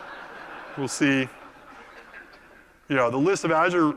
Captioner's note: laugh